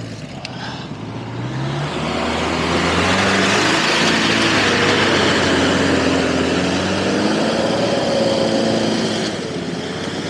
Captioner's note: revving engine